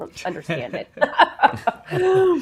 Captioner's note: laughs